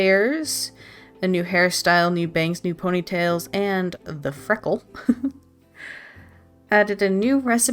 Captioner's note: laughs